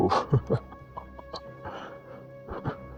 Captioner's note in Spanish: risas